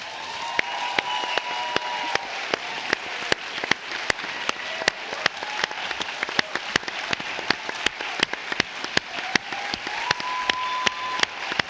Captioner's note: applause